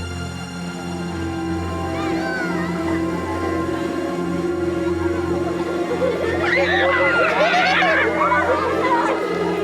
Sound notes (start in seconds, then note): 4.8 children screeching and laughing; 6.2 suspenseful music